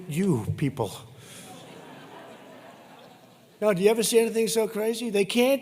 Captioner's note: laughter